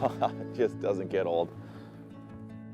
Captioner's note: laughs